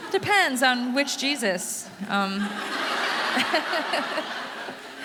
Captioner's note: all laughing